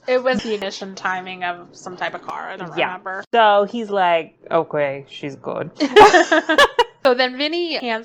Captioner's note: laughs